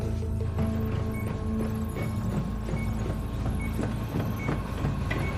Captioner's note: beeping